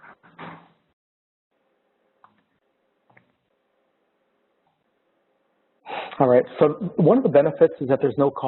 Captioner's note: pause